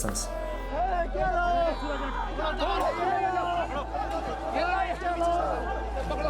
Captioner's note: shouting in foreign language